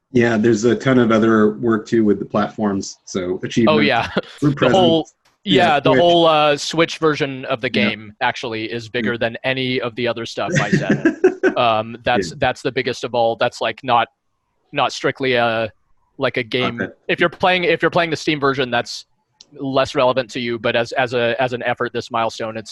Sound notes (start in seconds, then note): 10.4 laughing